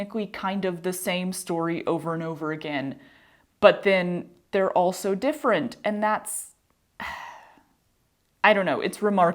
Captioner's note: sigh